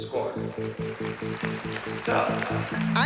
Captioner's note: applause